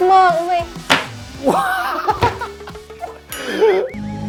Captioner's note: laugh